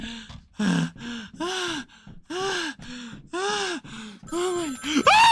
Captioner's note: more heavy breathing; over exaggerated screaming in response to telephone ringing